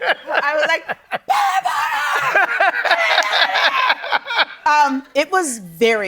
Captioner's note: screaming